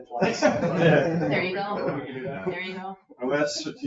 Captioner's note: all laughing